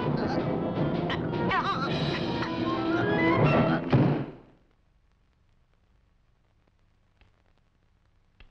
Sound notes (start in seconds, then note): 1.2 Lottie choking; 3.9 book thudding